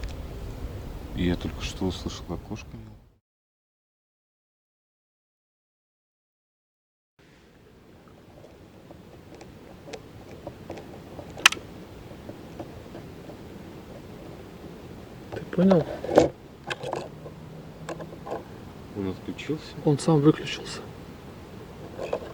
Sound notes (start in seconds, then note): 11.1 "click" - the recorder turned off on its own